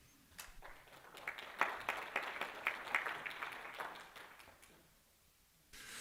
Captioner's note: applause